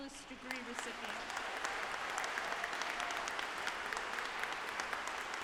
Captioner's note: audience applauding